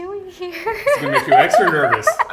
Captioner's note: laughter